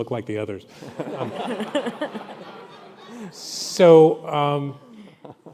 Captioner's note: audience laughing